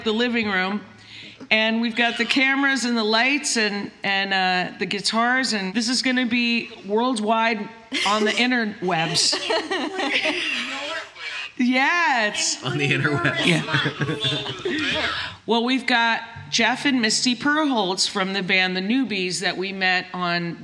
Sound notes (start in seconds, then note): 12.7 laughter